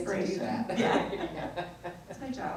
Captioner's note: both laugh